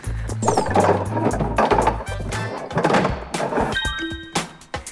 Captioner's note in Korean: 어딘가에 숨는 소리